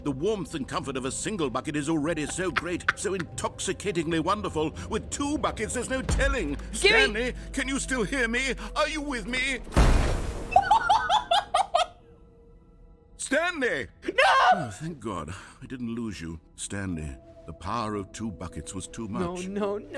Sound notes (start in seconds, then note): 2.4 laughs; 9.6 explosion; 10.5 laughing